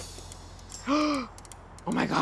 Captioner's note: gasps